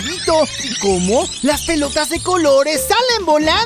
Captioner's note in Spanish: Sonido de rebobinado